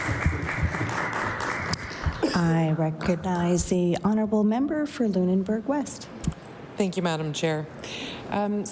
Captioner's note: applause